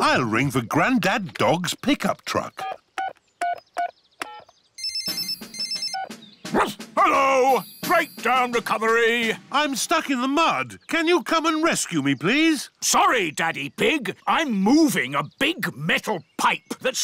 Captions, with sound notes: I'll ring for Granddad Dog's pick-up truck. (PHONE RINGS) (BARKS) Hello. Breakdown recovery. I'm stuck in the mud. Can you come and rescue me, please? Sorry, Daddy Pig, I'm moving a big metal pipe